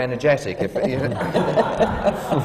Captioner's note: laughter